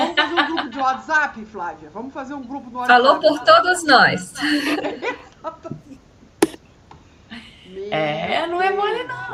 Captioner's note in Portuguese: risadas